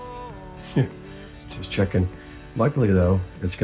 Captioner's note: scoffs